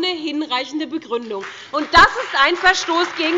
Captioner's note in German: Beifall bei der SPD, der LINKEN und der FDP